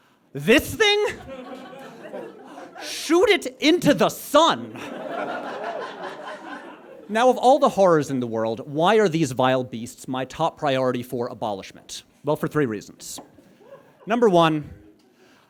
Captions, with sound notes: ...this thing? Shoot it into the sun! (audience guffaws) Now, of all the horrors in the world, why are these vile beasts my top priority for abolishment? Well, for three reasons. Number one...